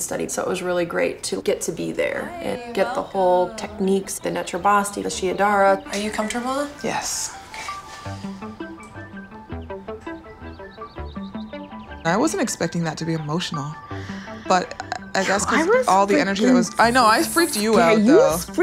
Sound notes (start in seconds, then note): 7.2 birds chirping; 7.2 soft music